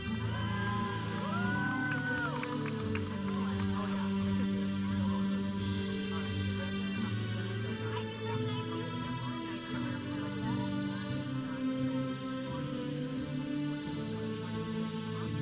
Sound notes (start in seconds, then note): 0.1 audience cheering; 5.2 audience chattering; 5.2 processional music